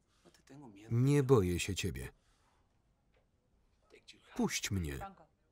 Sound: speaking foreign language

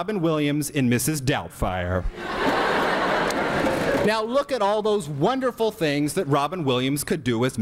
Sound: laughter erupts

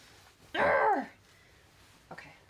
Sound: fabric rumbling; grunting

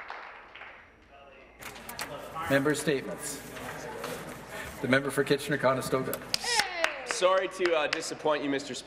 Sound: cheers and Applause

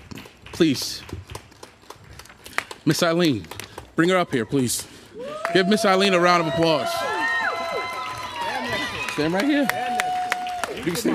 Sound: cheering & applause

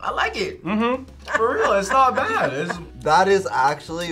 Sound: laughs

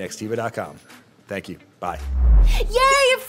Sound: air whooshing

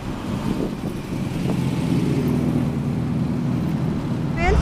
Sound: car engine humming

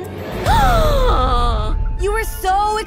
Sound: gasps

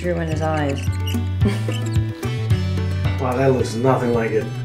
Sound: marker squeaking; Chloe laughs

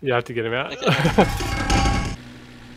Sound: gmod barrel noises

